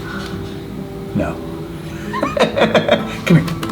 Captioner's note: laughs